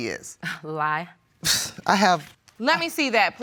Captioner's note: scoffs